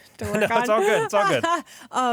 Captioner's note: laughs